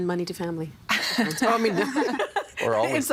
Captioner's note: laughing